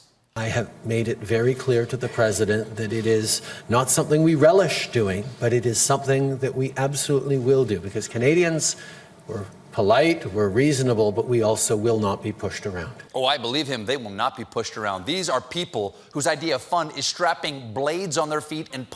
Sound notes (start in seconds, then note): none